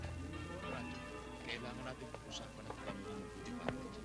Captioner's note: men chattering